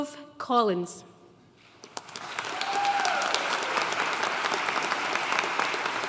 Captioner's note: audience cheering and applauding